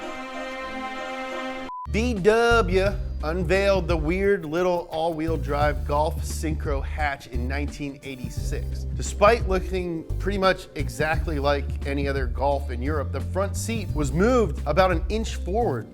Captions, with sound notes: (beep) VW unveiled the weird little all wheel drive, Golf Synchro Hatch in 1986, despite looking pretty much exactly like any other Golf in Europe, the front seat was moved about an inch forward